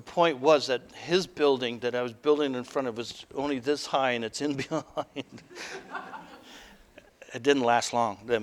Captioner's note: audience: Laughter